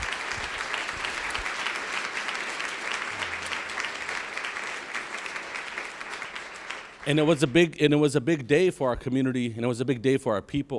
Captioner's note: applause